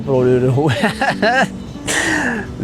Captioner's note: chuckles